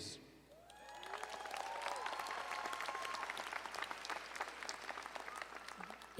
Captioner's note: audience cheering and applauding